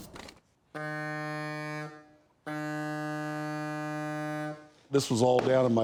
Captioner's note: blows horn